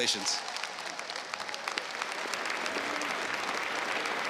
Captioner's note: crowd applauds